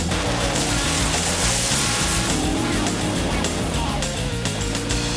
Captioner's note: car engine revving; energetic funky music continues